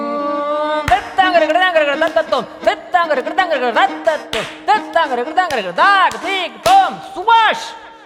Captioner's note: performs a vocal percussion sequence for 10 beats